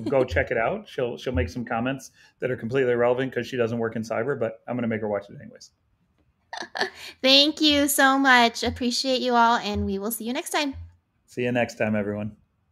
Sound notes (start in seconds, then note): 6.7 laughs